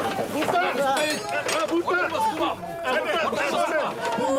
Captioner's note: men shouting